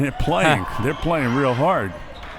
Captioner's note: laughs